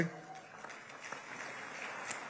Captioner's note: applause